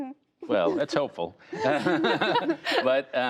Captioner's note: laughter